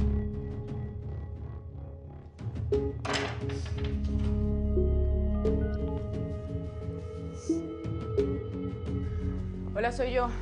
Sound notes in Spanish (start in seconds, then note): 6.4 Sonido al marcar